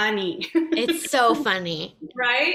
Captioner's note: laughs